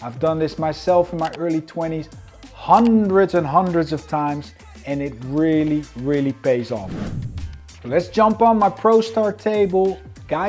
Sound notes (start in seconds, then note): 6.8 transition whooshes; 7.0 upbeat music continues